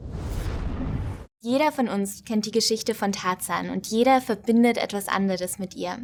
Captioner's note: foreign language